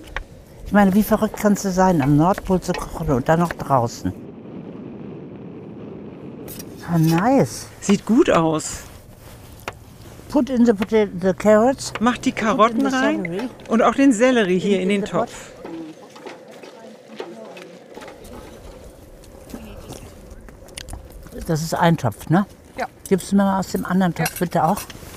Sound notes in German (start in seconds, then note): 4.7 Windrauschen; 9.9 englisch